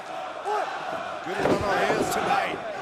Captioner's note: crowd cheering